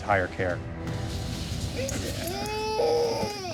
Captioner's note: cries